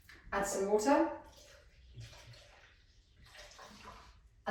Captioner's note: water pouring